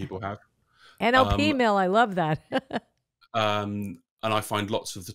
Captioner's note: laughs